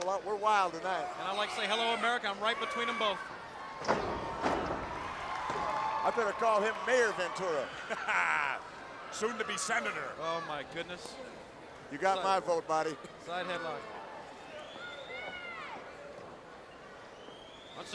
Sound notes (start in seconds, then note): 3.8 ring thuds; 4.0 crowd cheers; 7.6 Jesse laughs; 15.8 crowd chattering